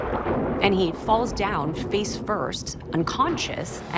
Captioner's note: thunder cracks